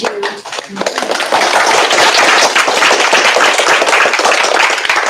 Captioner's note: applause